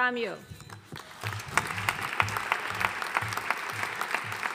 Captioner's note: audience applauding